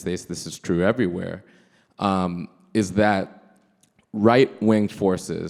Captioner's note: none